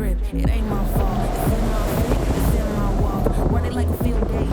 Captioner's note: wind blowing loudly